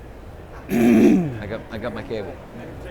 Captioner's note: clears throat